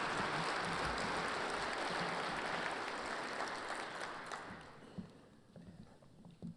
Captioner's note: cheers and applause